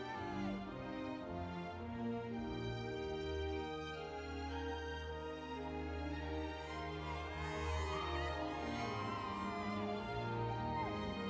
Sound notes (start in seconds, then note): 4.5 crowd cheering; 4.5 spirited classical music